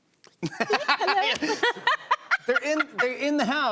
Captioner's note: laughter